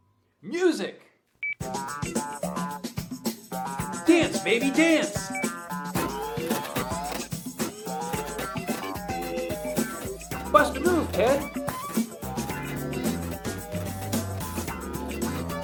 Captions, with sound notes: Music. (upbeat music) Dance baby, dance. (machine whirring) (upbeat music) Bust a move, Ted. (upbeat music)